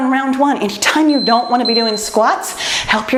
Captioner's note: timer beeps